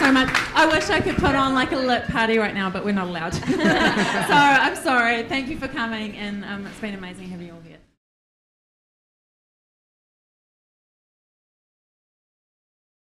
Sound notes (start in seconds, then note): 3.4 laughs